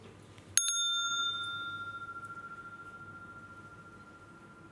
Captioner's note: Läuten der Glocke